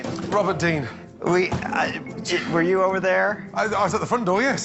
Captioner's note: stammering